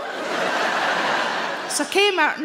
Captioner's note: audience laughing